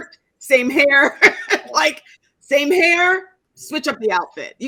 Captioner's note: laughing